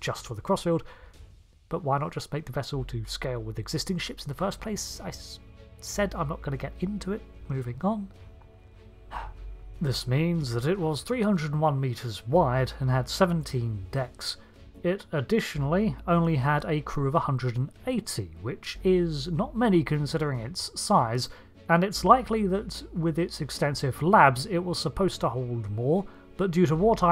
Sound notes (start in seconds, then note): 9.1 sigh